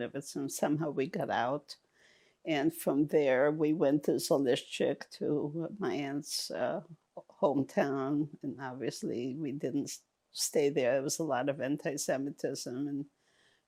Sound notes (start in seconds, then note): none